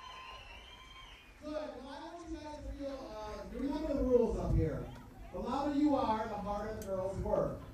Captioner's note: cheers